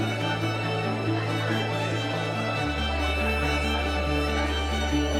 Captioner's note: inspiring music; visitors chatting